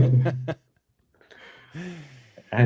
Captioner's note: laughter